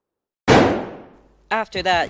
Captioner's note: muffled gunshot